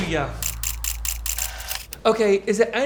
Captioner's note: camera shudders